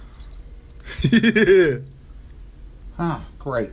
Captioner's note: laughs